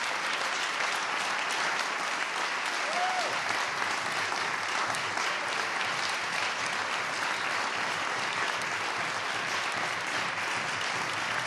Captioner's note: applause